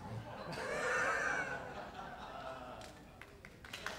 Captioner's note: laughter; applause